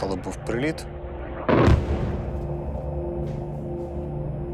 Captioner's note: loud explosion